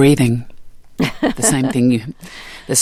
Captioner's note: laughter